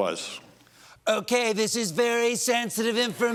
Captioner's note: as trump yelling